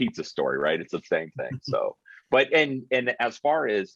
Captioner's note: chuckling